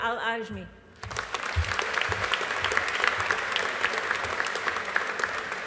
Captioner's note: audience applauding